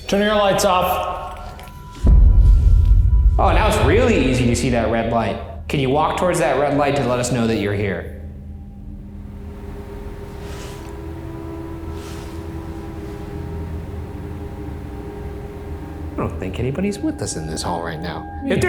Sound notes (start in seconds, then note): 1.9 air rumbles; 8.8 somber tense music